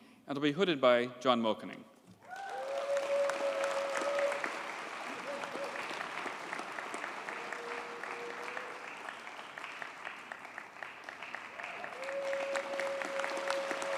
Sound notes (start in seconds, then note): 2.5 audience cheers and applauds